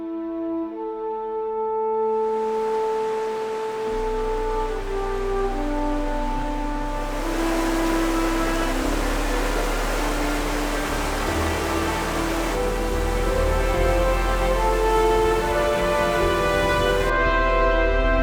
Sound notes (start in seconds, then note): 3.0 sound of the river